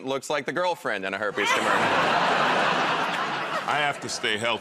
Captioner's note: laughter